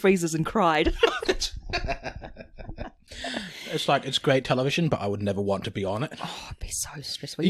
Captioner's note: laughs